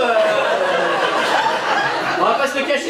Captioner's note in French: rires public